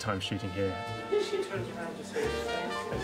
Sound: laughing

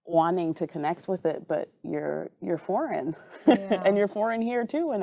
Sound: chuckling

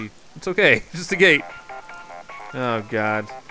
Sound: cartoony digital ringtone

